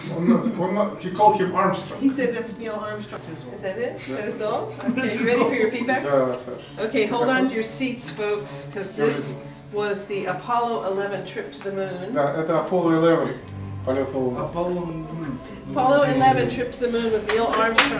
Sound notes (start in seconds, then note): 11.7 speaking russian; 17.2 applause